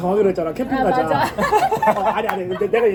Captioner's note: awkward laughter